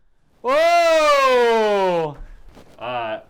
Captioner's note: cheers